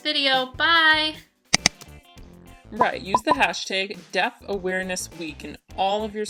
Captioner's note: click, boop, boop